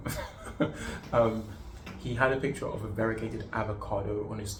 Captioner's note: laughs